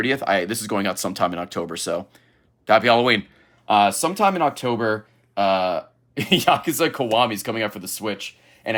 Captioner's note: laughs